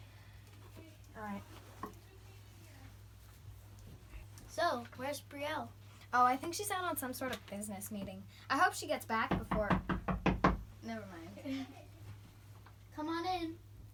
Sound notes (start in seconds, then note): 9.2 knocking at the door; 11.4 chuckles